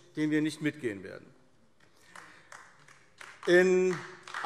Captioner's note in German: Beifall AfD